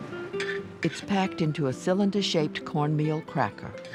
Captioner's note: voiceover